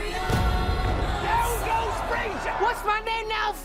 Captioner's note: punch echoes